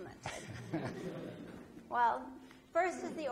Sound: audience laughs

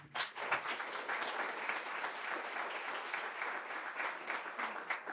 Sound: crowd applauds

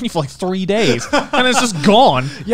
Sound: laughing

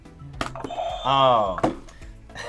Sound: buzzer rings; laughs

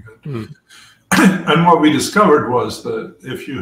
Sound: cough

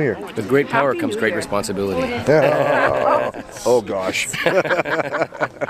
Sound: laughter

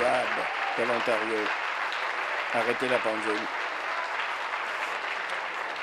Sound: applause

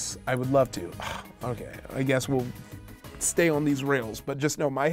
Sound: groans

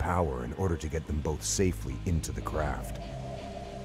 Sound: voiceover

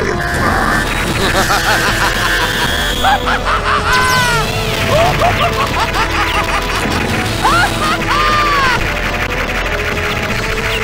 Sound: ridiculously Insane Laughter

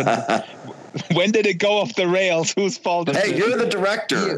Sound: laughing, asks

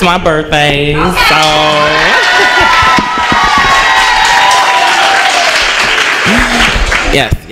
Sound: cheers

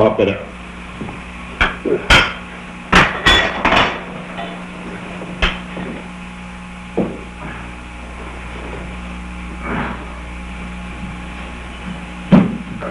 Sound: sounds of effort as officers try to wrap the man up in cushions and a carpet

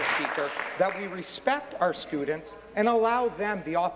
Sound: applause

